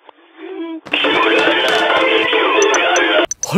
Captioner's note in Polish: telefon dzwoni